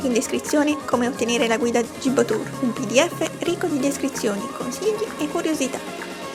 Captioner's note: in Italian